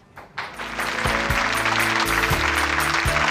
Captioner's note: applause